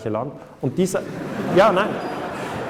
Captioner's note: laughter